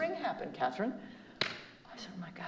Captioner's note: slaps knee